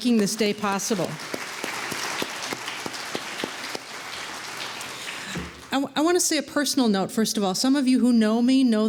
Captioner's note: applause